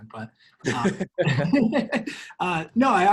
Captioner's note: laugh